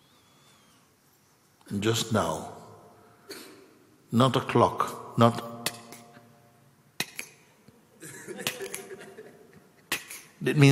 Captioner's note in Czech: smích